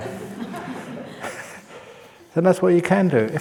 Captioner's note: laughs